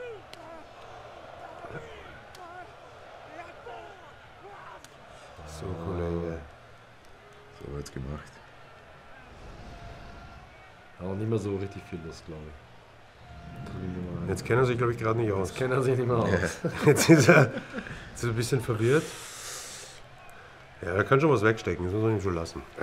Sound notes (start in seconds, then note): 16.4 lachen